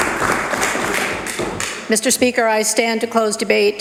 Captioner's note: applause